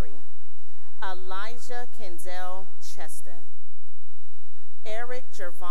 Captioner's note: cheering; cheering